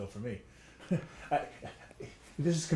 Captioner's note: chuckles